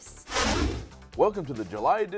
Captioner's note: whooshing